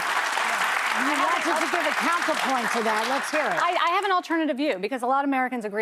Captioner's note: applause